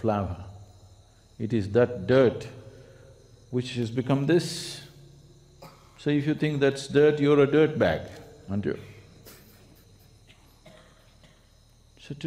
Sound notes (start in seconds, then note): 9.2 laughs